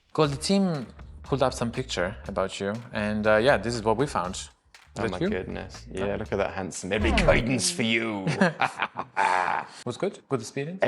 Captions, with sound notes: - Cool, the team pulled up some pictures about you and yeah, this is what we found. That you? - Oh my goodness. Yeah, look at that handsome. There be guidance for you. (laughs) - Was good, good experience?